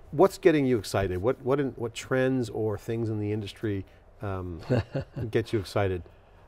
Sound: laughs

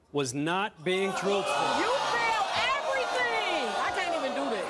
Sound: audience gasping

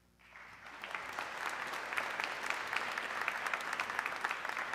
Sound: audience clapping

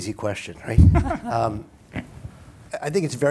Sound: laughter

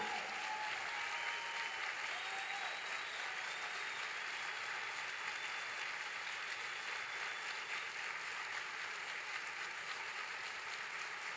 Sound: applause

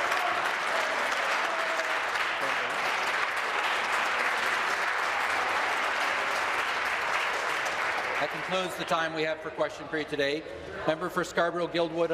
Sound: applause

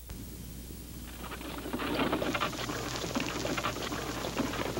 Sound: wagon rattling

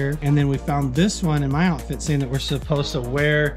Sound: none

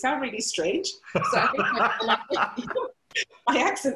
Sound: laughter

